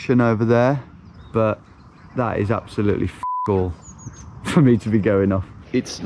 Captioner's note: beep